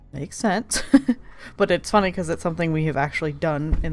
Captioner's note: laughs